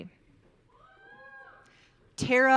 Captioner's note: audience cheering